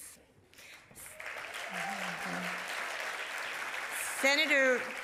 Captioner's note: audience applauding